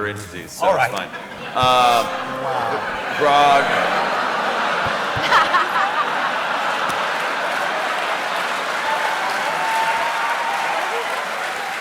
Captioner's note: laughter